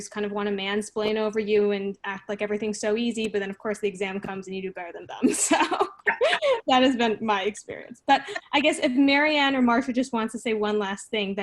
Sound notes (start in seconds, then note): 5.2 laughing; 5.3 laughs